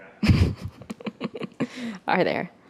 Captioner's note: laughs